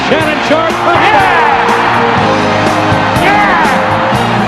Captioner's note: crowd cheering